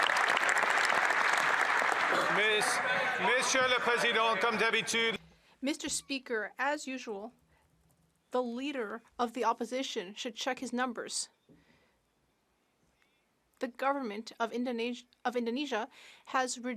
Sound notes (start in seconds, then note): 5.8 some Applause